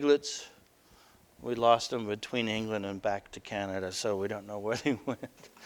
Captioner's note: laughter